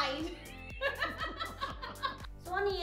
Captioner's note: both Laugh